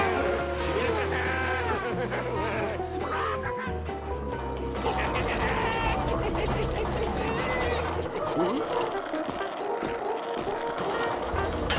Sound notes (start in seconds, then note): 4.8 laughing